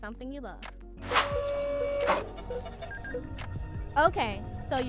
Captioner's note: robotic arm whirring